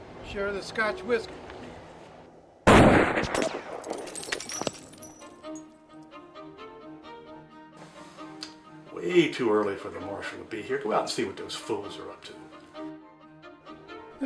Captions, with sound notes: I'll share this scotch whiskey. (gunshot blasts) (glass shatters) (dramatic music) - Way too early for the Marshal to be here. Go out and see what those fools are up to.